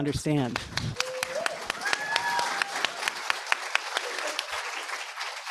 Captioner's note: audience applauds